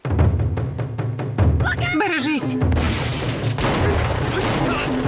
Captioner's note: gunshots